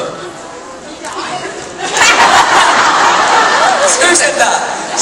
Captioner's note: audience members yells something. Audience laughs